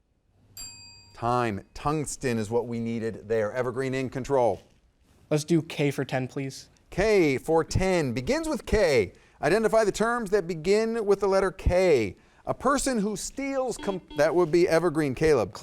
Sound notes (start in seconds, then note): 0.7 timer dings; 13.7 buzzer dings